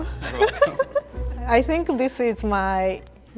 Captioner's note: laughs